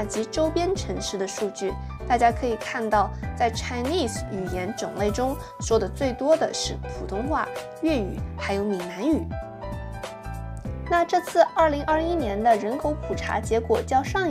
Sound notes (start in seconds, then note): 3.9 中文; 7.2 Mandarin